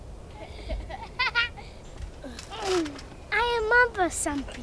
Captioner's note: both laughing